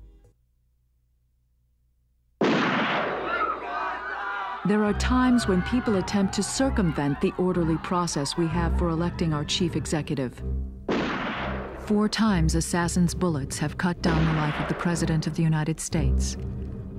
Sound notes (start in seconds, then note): 2.4 gunshot; 3.2 screams; 10.8 gunshot